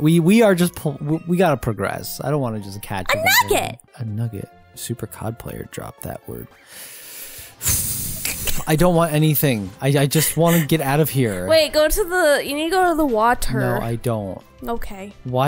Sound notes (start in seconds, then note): 7.2 sighs